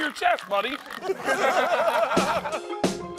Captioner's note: laughter